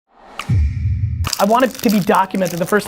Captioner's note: whoosh